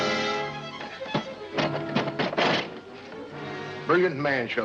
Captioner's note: suspenseful music; lid clattering down